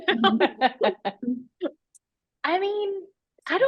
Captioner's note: laughter